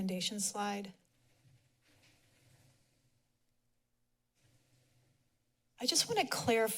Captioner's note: silence